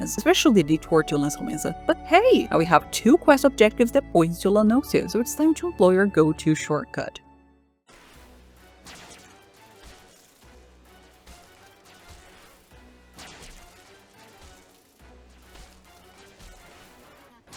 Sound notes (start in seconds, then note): 7.9 awkwardly long pause